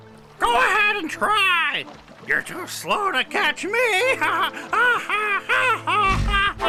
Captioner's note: 笑声